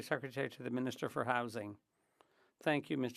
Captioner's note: speaking French